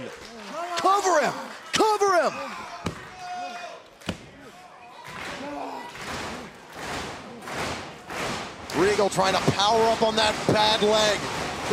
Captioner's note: crowd cheering